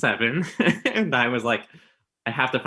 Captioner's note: both laughing